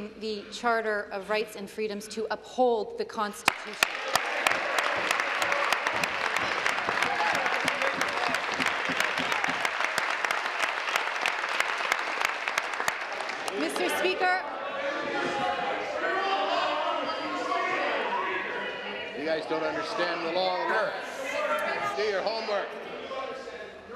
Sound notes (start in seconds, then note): 7.5 applause